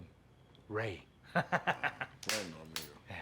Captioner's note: laughs